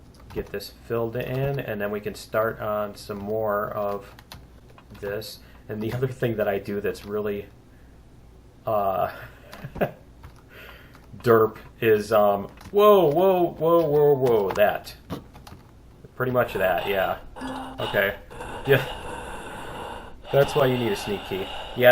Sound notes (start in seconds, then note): 9.9 laughs; 16.4 player gasping; 18.3 laughs